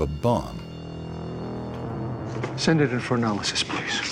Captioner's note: buzzing